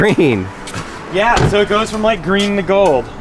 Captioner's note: door slamming